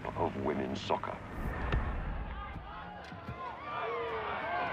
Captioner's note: yelling, clamouring